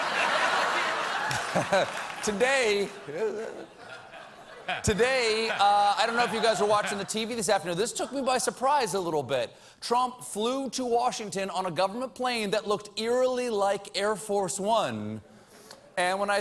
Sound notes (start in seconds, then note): 0.0 laughter